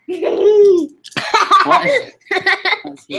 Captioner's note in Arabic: يضحك